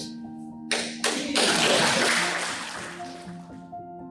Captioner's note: applauds